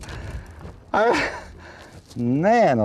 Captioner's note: out of breath